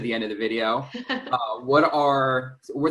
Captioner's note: chuckles